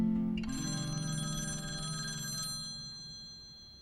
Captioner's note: phone rings